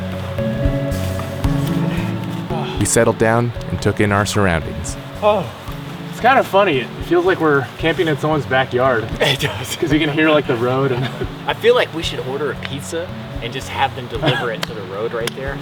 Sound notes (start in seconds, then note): 9.2 laughing